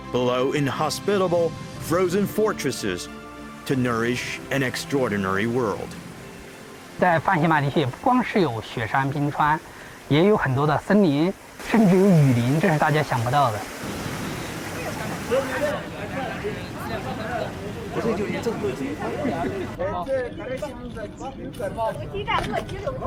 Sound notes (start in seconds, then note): 6.2 speaking in foreign language